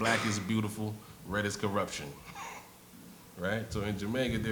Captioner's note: laughs